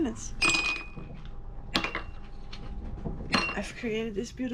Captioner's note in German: Glas klirrt